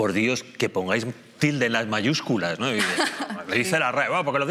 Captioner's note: laughter